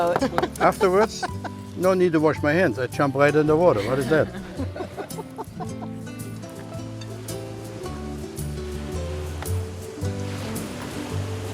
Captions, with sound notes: (laughing) - Afterwards, no need to wash my hands, I jump right in the water. What is that? (laughing) (light music) (waves crashing)